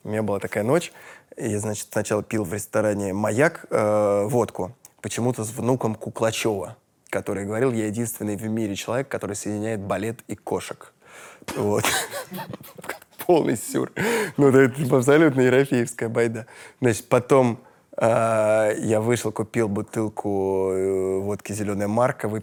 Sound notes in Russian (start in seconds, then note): 11.5 смеются